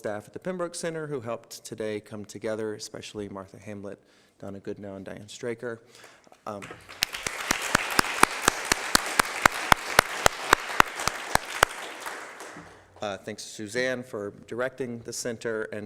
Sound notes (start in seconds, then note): 6.6 applause